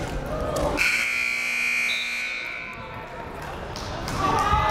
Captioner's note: whistle blaring; buzzer blaring